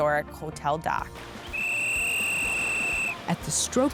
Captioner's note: whisle blows